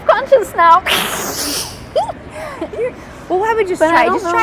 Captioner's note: laughing